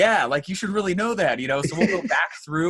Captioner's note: laughs